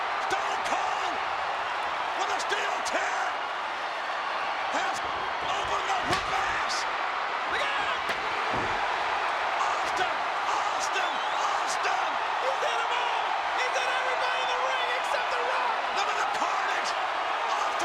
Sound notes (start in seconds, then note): 7.8 chair thuds; 8.5 audience cheering